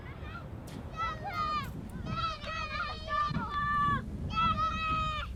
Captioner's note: all chattering